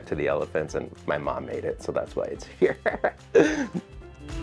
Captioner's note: chuckles; upbeat music